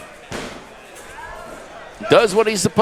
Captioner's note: fist slamming